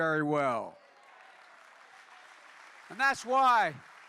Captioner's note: applause